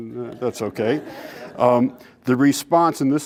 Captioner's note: laughter